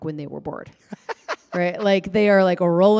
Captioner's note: laughter